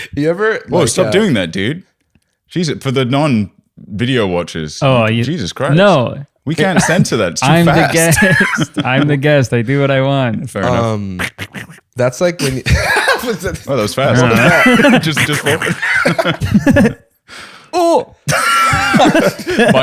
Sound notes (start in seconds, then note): 10.6 rasping; 12.2 laughs; 16.8 rasping; 18.2 laughter